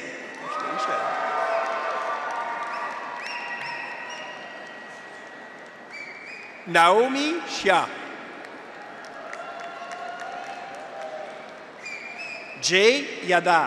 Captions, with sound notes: (graduates cheer) (audience applauds) (audience whistles) Naomi Xia. (graduates cheer) (audience applauds) Jay Yadav.